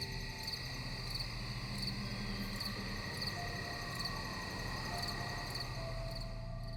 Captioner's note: crickets chirping